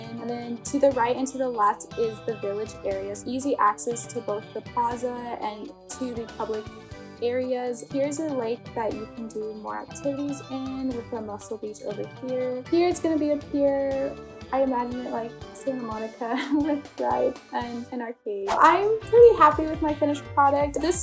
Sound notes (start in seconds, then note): 16.4 laughs; 18.4 upbeat music